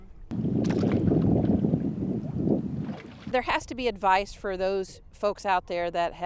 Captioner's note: water splash